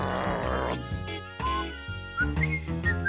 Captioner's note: whistles